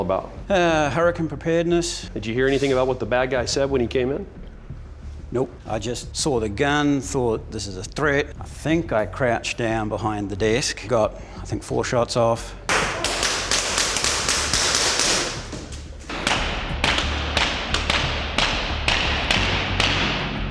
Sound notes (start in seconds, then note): 12.5 gun firing; 16.1 gun firing in slow motion